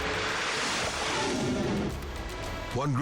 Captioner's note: air whooshing